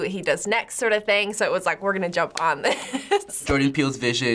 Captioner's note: laughs